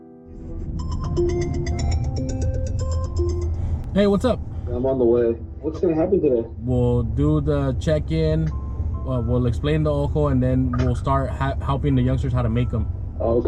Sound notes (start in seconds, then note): 0.6 cell phone ringtone; 4.8 voice on phone